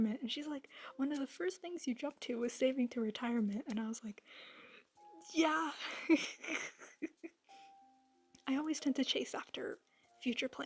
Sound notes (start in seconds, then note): 5.8 chuckle